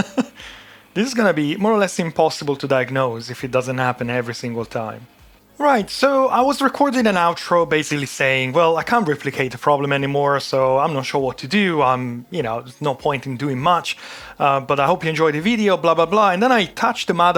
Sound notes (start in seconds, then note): 0.0 laughs